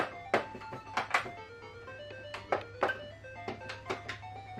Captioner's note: taps several times